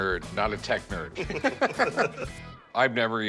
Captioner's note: both laugh